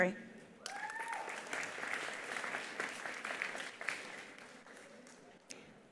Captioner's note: attendees cheering; attendees applauding